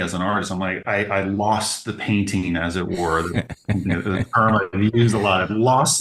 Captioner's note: laughing